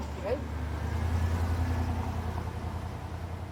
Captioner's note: vehicle driving